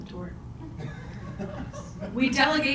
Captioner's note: audience chuckles